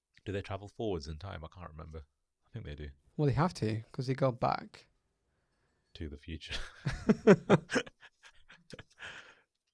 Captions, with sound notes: Do they travel forwards in time. I can't remember, I think they do. - Well, they have to because he got back - to the future. (laughs)